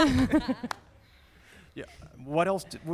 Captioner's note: laughter